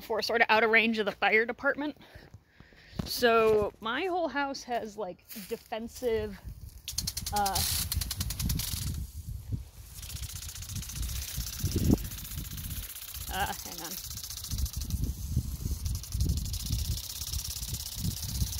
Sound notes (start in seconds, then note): 4.8 the sound of sprinklers for like a whole minute; 13.7 sprinklers again